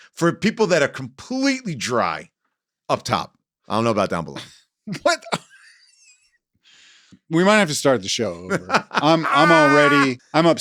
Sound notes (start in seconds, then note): 5.0 laughs; 8.4 laughs